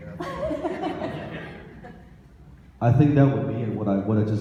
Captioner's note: audience laughs